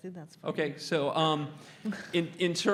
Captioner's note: laugh